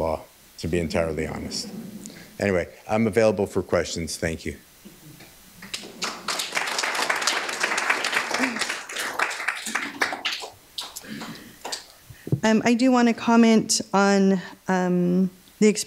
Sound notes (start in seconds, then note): 5.6 applause